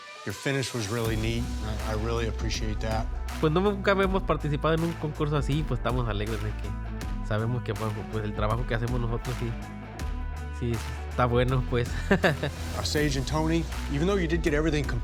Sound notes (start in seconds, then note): 12.0 laughs